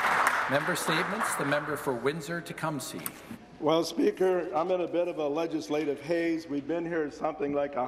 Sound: some Applause

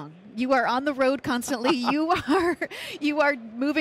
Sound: laughs

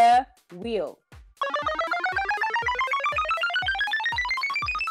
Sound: wheel spinning

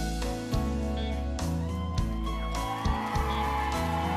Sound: audience cheers

